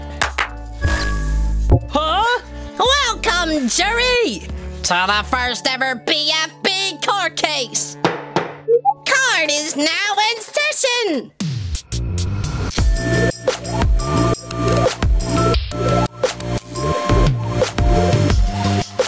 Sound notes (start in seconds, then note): 0.2 clap, clap; 8.0 gavel slam; 11.3 intro music